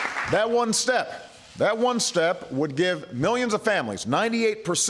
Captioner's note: applause